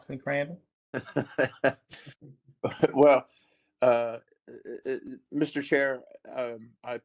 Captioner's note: laughter